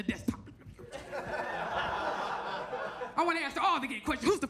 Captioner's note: audience laughs